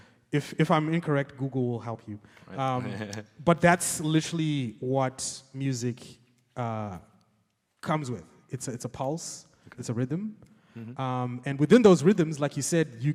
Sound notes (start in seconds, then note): 2.6 laughs